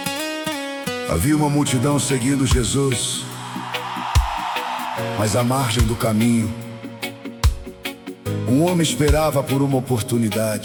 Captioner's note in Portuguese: aplausos